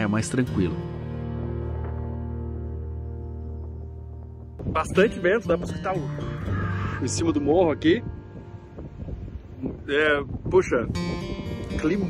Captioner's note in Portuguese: barulho do vento